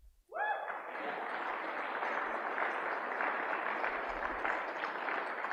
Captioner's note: applause; audience member cheers